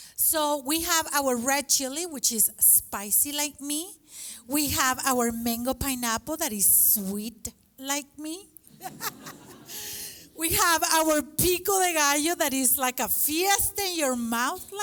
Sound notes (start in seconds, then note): 8.7 laughter